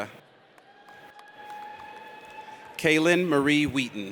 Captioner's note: audience cheers